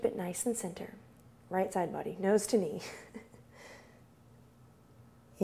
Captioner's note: chuckles